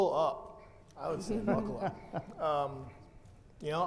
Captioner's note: panelists giggle